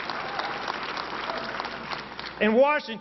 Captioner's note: applause